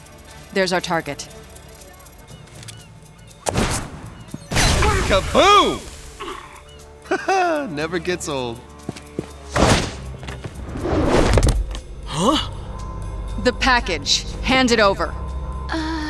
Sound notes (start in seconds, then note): 4.5 explosion; 7.0 chuckles